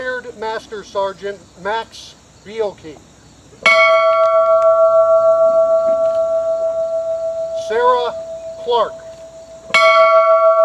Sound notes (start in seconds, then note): 3.7 bell ringing